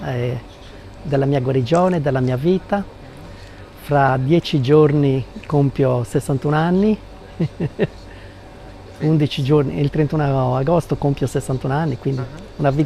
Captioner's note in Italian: risate